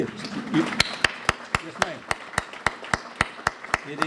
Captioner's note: clapping